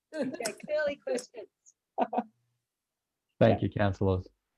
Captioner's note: laughs softly